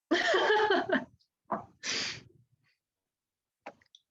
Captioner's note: laughing